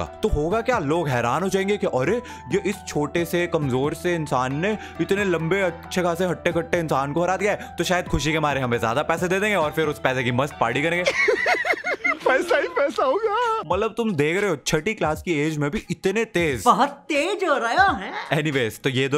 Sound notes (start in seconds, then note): 11.0 evil laughter